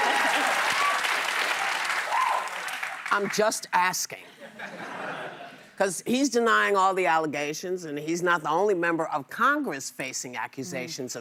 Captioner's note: cheers and applause